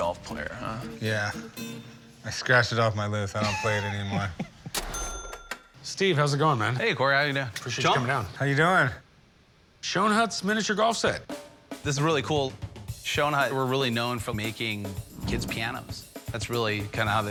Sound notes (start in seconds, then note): 3.4 laughs